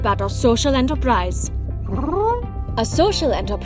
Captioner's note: Huti hoots